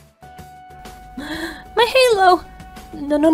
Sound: gasp

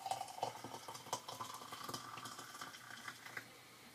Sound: water pouring

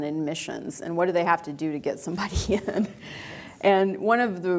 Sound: chuckles

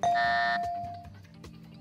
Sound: bell; buzzer

